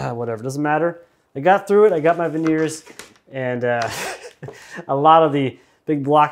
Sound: chuckles

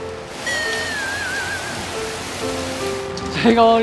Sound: rain gets heavier and heavier

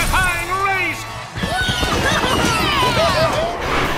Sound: cheering

